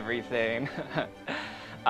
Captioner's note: laughs